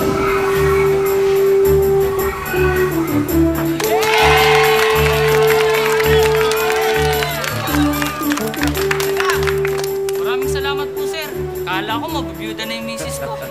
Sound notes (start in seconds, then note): 3.6 crowd; 3.7 applause, cheering